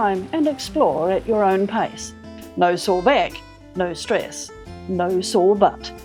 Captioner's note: water flowing